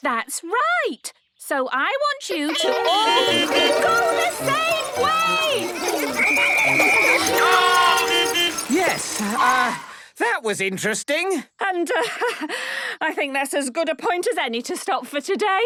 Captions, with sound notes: - That's right! So I want you to all-- (beeping) --go the same way! (whistle blowing) - Stop!! (beeping) Yes, uh... that was interesting. - And, uh, I think that's as good a point as any to stop for today.